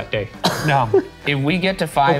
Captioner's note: laughs